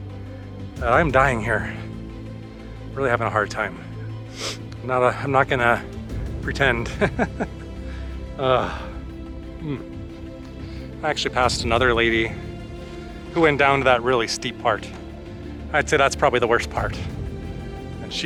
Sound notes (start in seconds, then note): 6.8 laughter